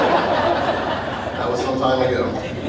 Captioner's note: audience laughing